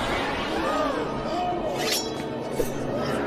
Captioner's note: crowd gasps